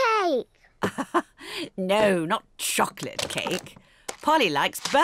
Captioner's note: laughs